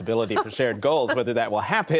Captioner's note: laughter